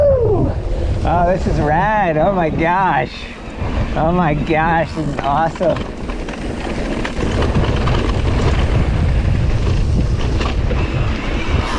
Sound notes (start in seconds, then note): 6.1 bike rattles